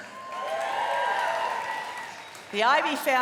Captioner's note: cheering and applause